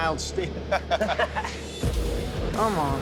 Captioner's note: laughter